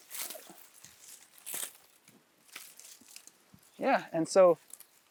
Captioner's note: vines cracking